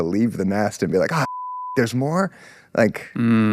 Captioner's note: beep